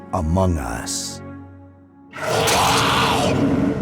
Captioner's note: growls